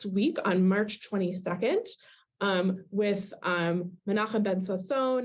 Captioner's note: Hebrew